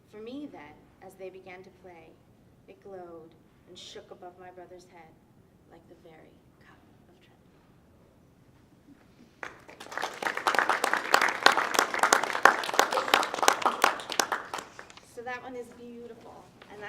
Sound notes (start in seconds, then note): 9.3 audience clapping